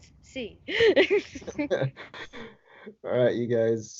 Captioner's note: laughing